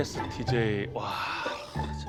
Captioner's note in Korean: 한숨